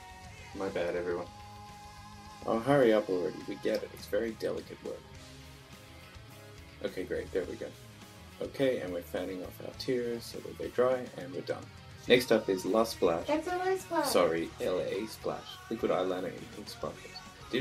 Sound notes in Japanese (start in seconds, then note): 12.5 甲高い声